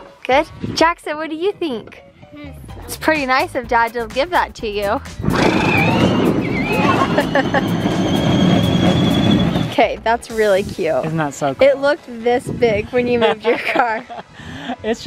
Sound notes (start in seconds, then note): 6.5 laughing